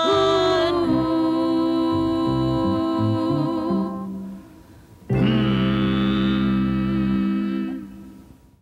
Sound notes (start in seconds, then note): 5.0 humming